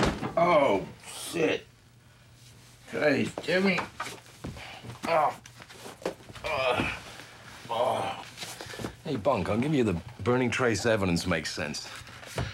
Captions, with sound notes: Oh, shit! Christ, Jimmy. ( groaning ) Hey, Bunk, I'll give you that burning trace evidence makes sense,